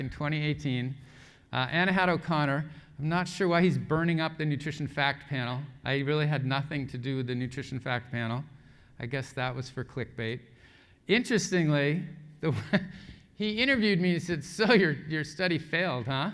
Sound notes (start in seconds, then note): 12.1 laugh